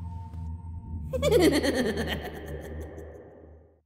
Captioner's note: manic laughing